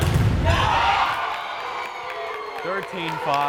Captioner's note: crowd cheering